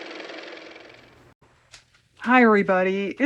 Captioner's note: car motor